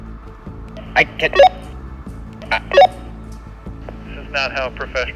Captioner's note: walkie talkie beeping